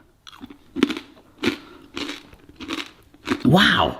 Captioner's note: pasta crunching loudly